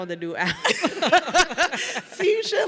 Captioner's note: everyone laughing